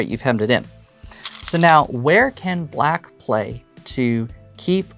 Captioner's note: stones rattling